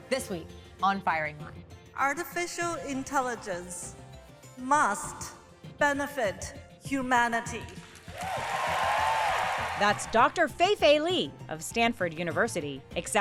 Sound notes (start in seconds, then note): 8.0 attendees applauding; 8.1 attendees cheering